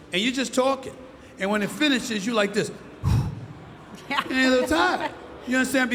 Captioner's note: sighs